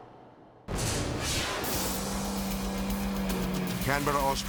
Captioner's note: lively music; dramatic whoosh; car revving